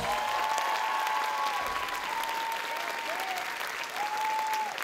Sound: audience cheering

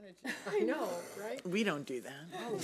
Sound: laughs

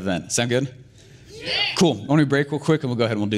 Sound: audience cheer

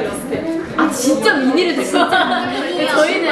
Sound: laughing

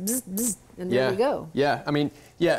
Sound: imitates buzzes

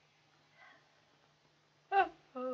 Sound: yawns

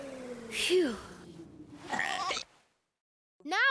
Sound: burp! hiccup!

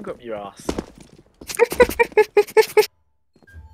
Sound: wufuhguty laugh

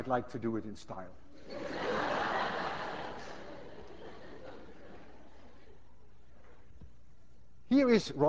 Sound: class laughs

